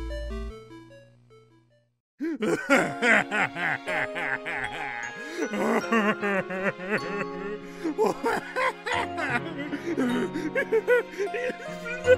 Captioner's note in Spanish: llorando